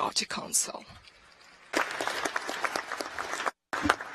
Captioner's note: applause